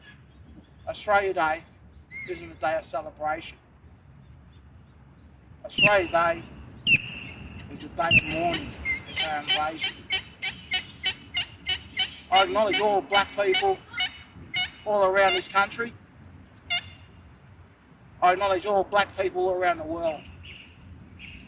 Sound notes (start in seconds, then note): 10.3 birds squawking